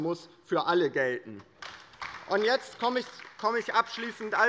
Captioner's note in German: Beifall bei der LINKEN